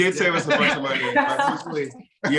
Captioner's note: all laughing